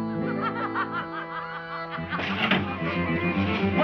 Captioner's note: laughing